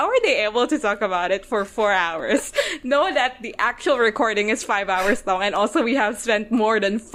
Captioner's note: laughing